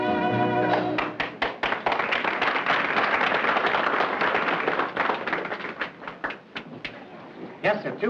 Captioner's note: applause